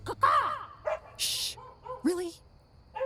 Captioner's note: dog barking